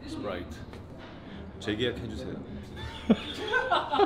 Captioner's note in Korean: ㅋㅋㅋㅋㅋㅋㅋㅋㅋㅋㅋㅋ